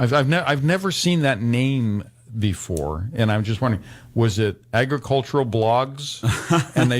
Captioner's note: laughs